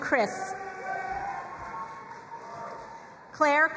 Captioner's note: crowd cheering and applauding